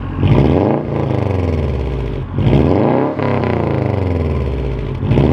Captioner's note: boxer Engine Sound